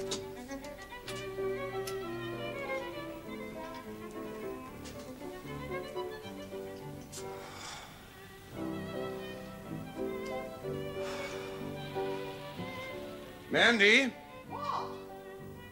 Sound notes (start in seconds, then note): 7.2 sighs